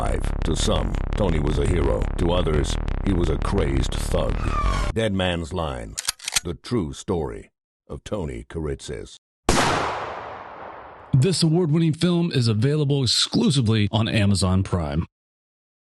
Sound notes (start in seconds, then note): 6.0 gun cocks; 9.5 gunshot